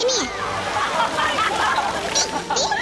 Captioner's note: crowd laughing